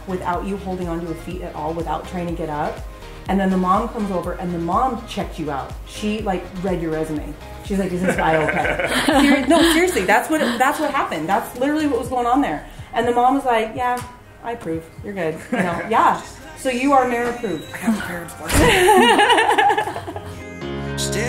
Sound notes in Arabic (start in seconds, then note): 7.8 كريستال يضحك; 8.0 يضحك; 15.4 يضحك; 18.5 كاري تضحك